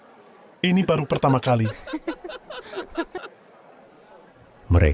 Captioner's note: laughs